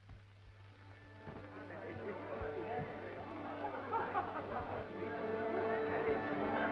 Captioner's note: gentle music; attendees chattering